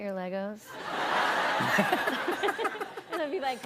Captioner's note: laughter